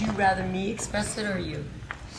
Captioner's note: none